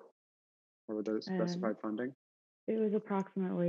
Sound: faintly speaking

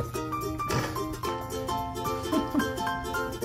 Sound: giggles

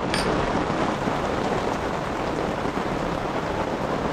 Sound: rain falling

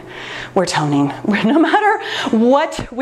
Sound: laughs

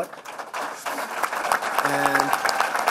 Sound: applause

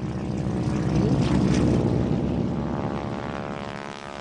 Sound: plane Engine in the Distance

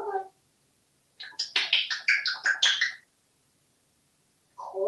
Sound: smacking sounds

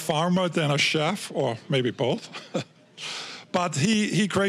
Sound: chuckling

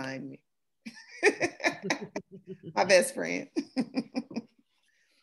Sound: laughter

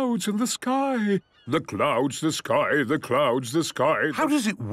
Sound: sing-sing voice

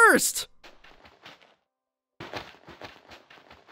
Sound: crunching

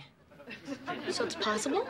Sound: audience laughing

